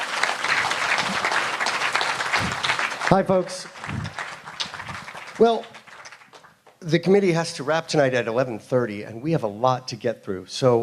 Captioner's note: applause